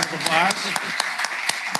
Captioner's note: applause